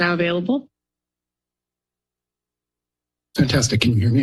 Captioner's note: silence